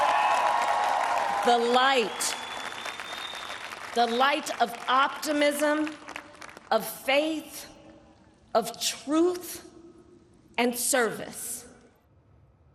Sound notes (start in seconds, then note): 1.5 applause